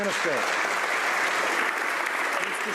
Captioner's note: some Applause